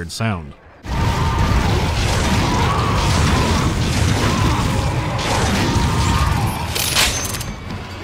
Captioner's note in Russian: воздух наполнен криками некроморфов, выстрелами оружия и звуками попаданий; выстрелы и эффекты интерфейса пронзают звуки окружения